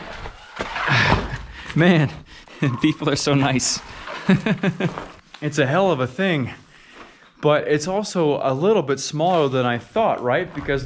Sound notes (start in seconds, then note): 4.7 laughs